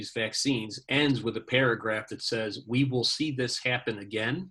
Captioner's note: laughing